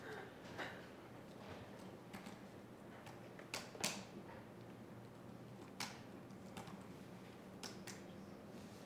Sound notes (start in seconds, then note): 2.5 keyboard clicking